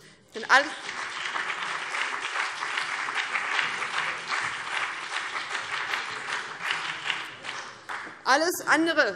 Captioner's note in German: Beifall BÜNDNIS 90/DIE GRÜNEN